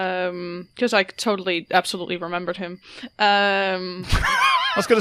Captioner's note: laughter